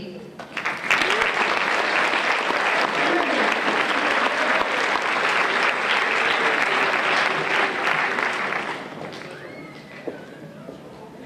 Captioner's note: applause